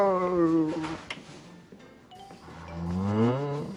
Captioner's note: groaning